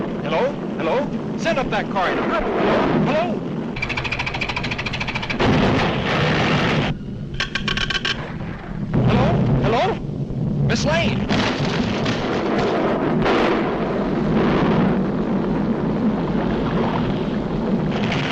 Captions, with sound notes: Hello? Hello? Send up that car, and hurry. Hello? (machine ticking) (boulders thudding) Hello? Hello? Ms. Lane? (volcano rumbles)